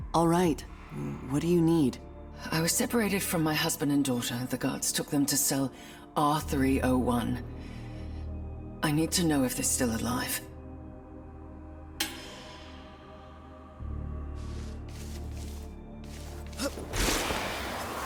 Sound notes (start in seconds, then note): 13.1 ominous music; 16.5 grunting